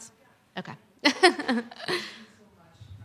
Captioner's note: chuckles